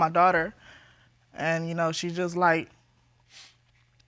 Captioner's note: sniffles